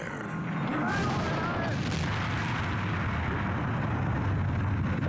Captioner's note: fire whooshing